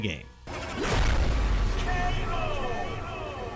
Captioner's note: bomb exploding